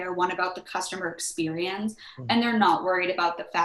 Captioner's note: laughs